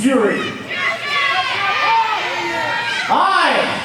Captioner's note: audience members shouting